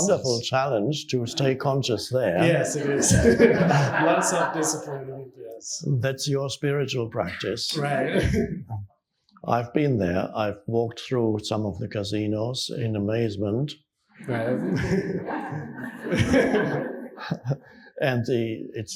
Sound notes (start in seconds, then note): 2.4 audience laughing; 7.8 chuckles; 14.2 audience laughing